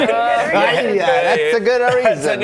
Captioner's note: uncomfortable laughter; in Italian